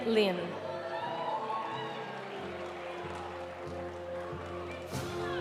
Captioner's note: audience cheering; audience applauding